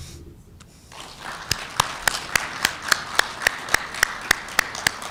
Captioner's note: applause